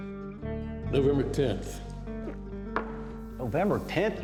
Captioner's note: gulps